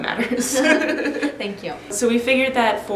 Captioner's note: both giggle